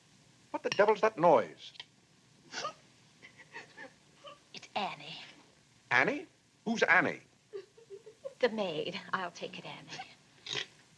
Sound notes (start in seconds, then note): 3.2 Annie sobbing; 7.5 Annie sobbing